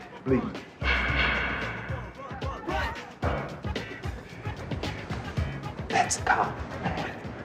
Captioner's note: police baton knocking against railing